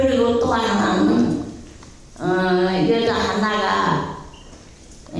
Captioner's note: speaking in foreign language